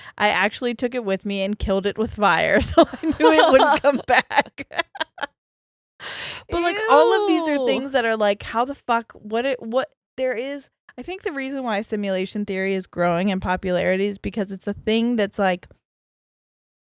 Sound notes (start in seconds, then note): 2.7 both laughs